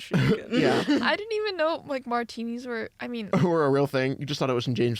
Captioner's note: laughs; laughs